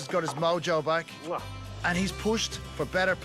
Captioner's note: kisses